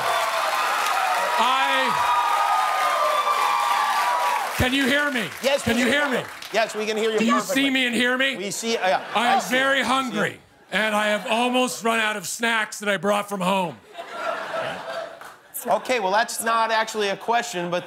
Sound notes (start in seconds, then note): 2.9 cheers and applause